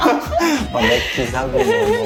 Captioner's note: laughing